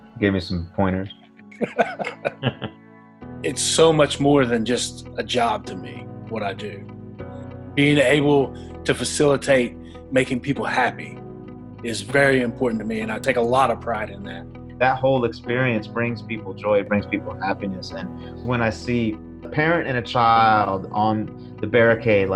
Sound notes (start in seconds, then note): 1.5 laughs